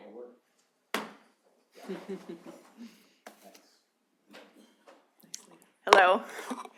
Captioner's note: laughter